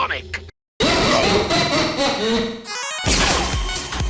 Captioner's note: live Studio Audience Laughter